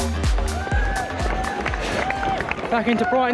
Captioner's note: crowd cheering